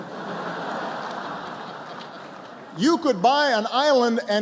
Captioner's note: laughter